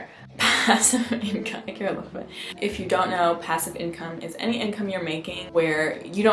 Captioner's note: laughs